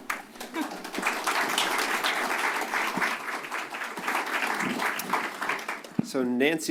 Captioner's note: applause